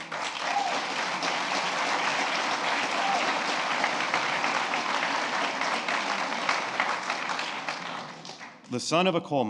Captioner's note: applause